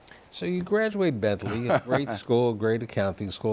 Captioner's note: laughter